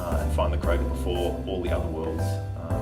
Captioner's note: none